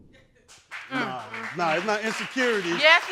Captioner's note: crowd applauds